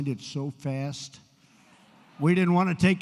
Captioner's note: laughter